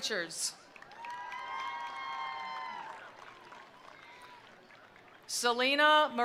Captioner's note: attendees applauding; attendees cheering